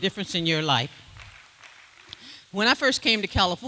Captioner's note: applause